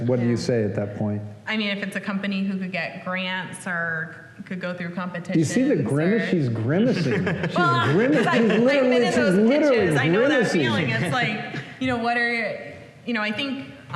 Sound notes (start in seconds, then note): 6.8 laughter